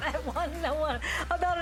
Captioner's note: laughter